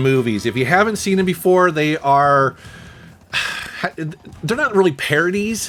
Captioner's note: sighs